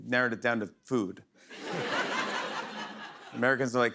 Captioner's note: laughter